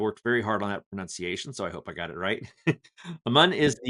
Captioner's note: laughing